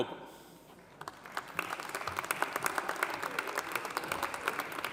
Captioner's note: audience applauding